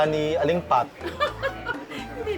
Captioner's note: laughs